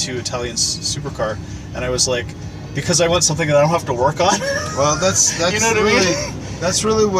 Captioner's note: laughs